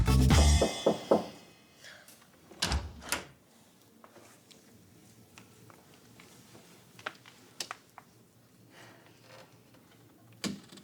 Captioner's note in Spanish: Toques en la puerta